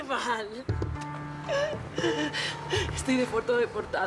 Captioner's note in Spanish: Sollozos